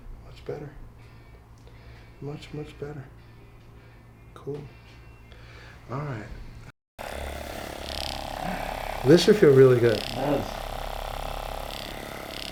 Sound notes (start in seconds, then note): 7.0 massager whirs